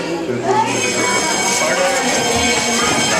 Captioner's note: school bell